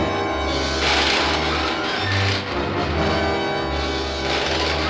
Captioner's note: electricity crackling